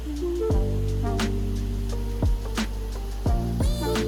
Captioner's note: upbeat music; water rushing